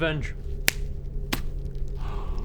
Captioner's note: smug click